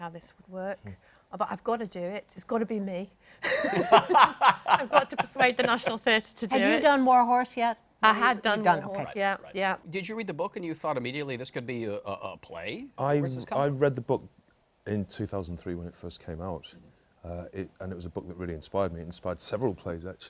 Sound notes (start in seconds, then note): 3.4 laughter